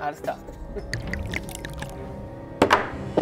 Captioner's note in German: Bedrohliche Klänge, Gluckern